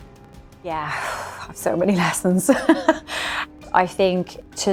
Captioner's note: laughs